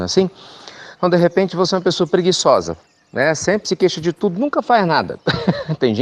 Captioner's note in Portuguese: risos